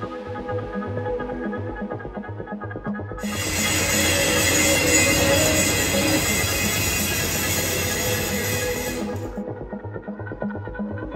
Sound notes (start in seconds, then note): 3.2 grinder revs